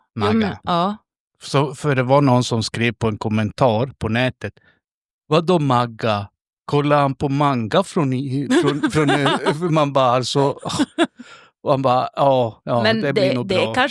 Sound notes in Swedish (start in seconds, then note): 8.4 skratt